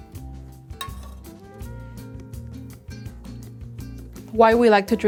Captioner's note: coffee trickling; ladle scraping